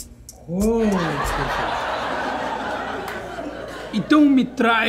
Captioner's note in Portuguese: risadas